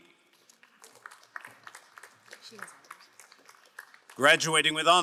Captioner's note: crowd applauding